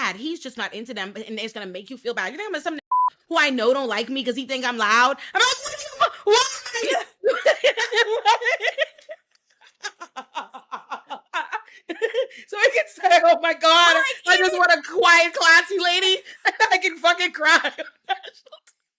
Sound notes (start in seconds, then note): 2.9 beep; 9.2 laughing